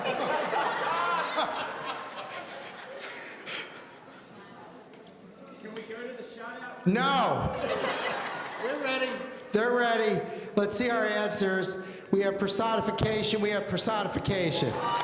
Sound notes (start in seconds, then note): 0.0 audience laughing; 7.3 audience laughing